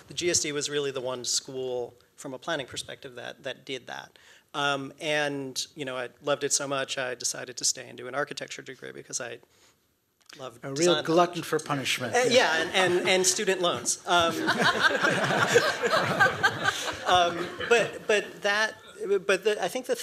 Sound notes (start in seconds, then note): 14.2 laughter